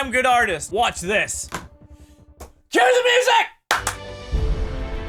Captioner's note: clap clap